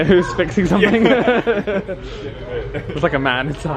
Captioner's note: they laugh